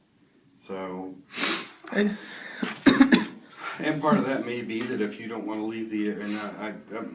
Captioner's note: coughs